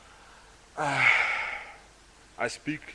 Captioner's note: sighs